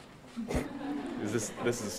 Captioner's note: audience laughing